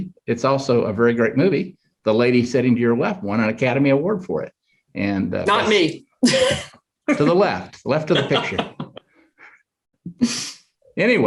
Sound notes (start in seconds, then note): 7.1 chuckles